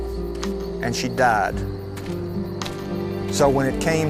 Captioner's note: footsteps thudding